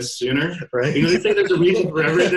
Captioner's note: laughing